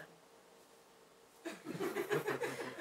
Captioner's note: laughter